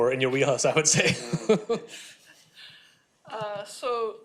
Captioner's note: laughing